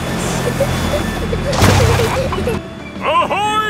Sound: peppa and george giggling

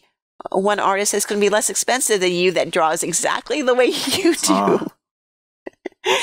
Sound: laughter

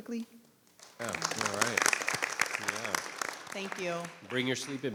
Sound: applause

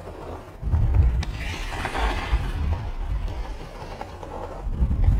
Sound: hockey stick scraping

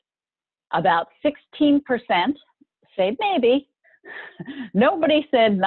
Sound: laughing

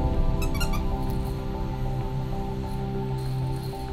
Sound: toy squeaks

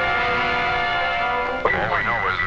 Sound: radio sounds

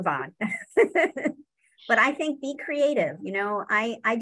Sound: laughs

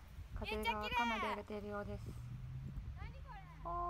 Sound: the wind is quite strong

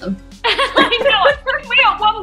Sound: laughter

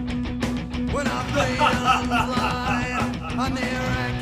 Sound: Dameon laughing

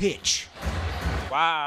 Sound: banging

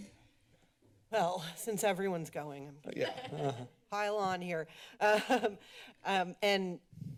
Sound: laughs

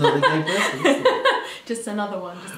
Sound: laughing

